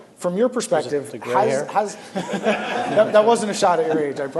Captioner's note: laughter